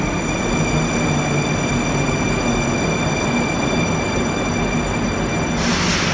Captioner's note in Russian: прибытие поезда на станцию